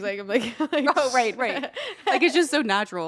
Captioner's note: laughs